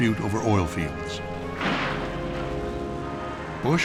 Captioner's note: explosion pounds